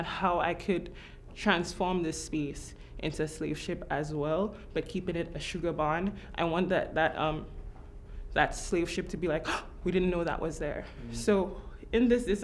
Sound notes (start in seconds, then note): 10.9 gasping